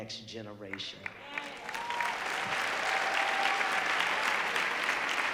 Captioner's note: audience applauding